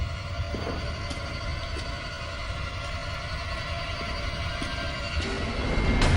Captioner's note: clang, running footsteps